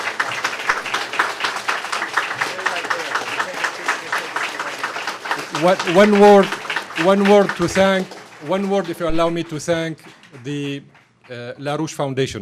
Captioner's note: applause